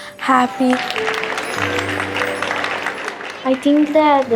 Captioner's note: applause